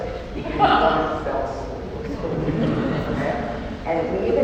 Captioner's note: laughter